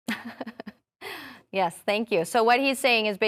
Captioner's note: chuckling